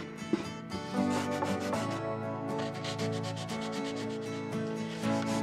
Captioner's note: bright music; sandpaper scraping